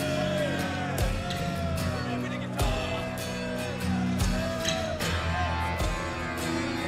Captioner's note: crowd cheering